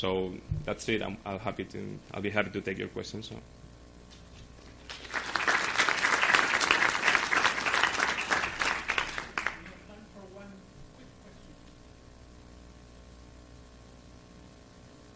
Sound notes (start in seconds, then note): 4.6 applause